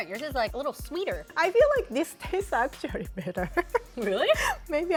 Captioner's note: giggles